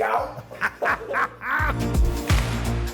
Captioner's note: laughing; upbeat music